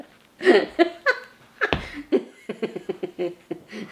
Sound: laughing

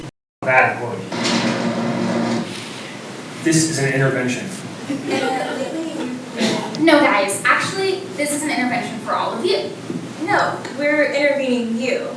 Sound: laughter

